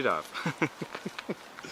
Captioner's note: chuckling